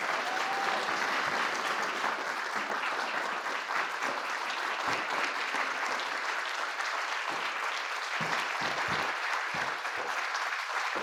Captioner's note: applause